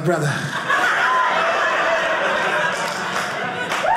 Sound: audience laughing

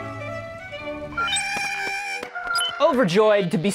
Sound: Porg sounds

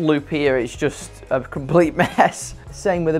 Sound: laughing

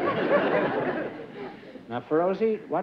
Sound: laughter

